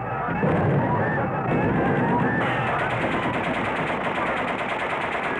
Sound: gunfire popping

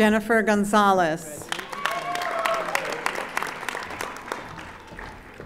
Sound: audience applauding

